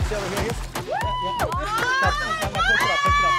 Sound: women screaming

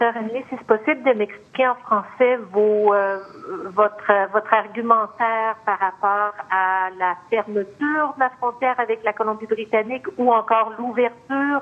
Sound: speaking French

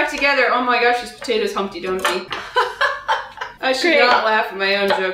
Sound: laughs

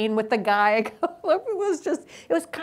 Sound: laughs

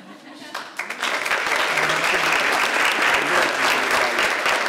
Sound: audience applauds

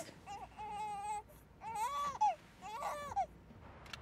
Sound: baby crying

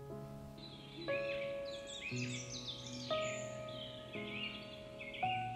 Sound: birds chirping outside

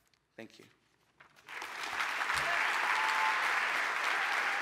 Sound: applause

